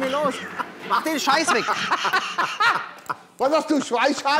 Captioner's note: Sie lachen